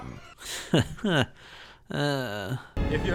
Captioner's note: nervous laughter